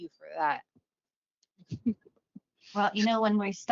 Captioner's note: laughs